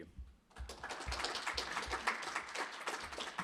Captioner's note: applause